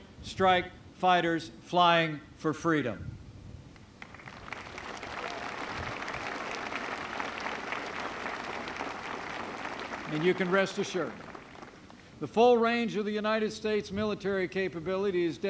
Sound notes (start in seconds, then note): 4.0 applause